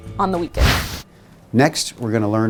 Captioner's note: wind whooshes